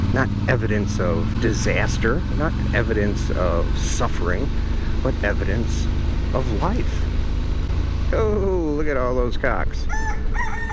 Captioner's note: roosters